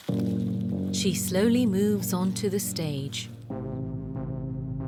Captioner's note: voiceover